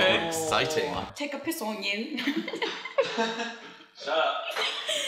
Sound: laughs

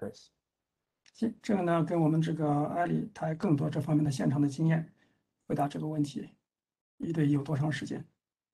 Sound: speaks in Mandarin

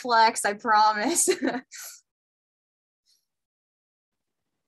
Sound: giggle

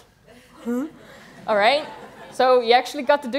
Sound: laughter

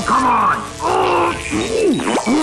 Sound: grunting

